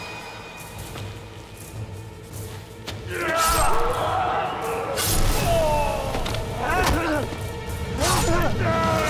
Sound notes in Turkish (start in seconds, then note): 3.5 İnilti sesleri; 4.8 Kılıç sesleri